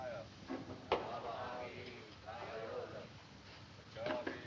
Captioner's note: chanting Continues